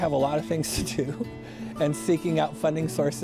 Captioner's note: laughs